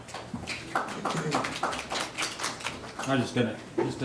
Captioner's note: audience clapping